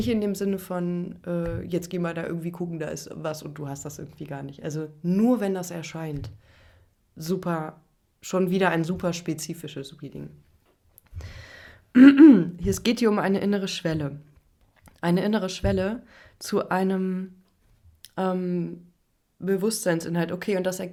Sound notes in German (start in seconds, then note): 11.9 räuspern